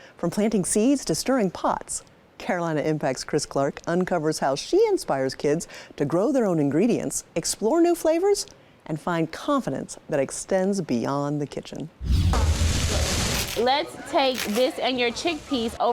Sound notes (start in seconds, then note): 12.0 dramatic whooshing; 12.0 food sizzling